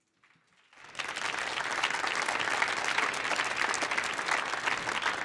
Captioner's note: audience applauding